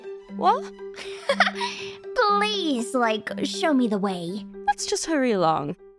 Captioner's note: laughs